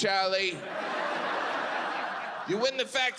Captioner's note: audience laughs